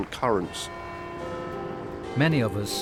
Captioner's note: clock chiming